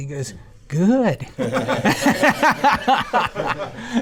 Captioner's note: crowd laughs